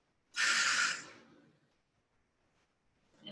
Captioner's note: audible exhale